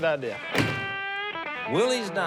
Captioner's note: door shuts